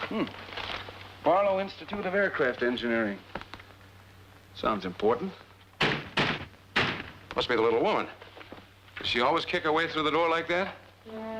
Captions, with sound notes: Hm. Barlow Institute of Aircraft Engineering. Sounds important. [thudding] Must be the little woman. Does she always kick her way through the door like that?